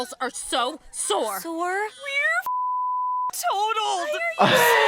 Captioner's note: beep; laughs